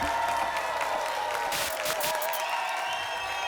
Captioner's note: applause and cheering cont; static; applause and cheering cont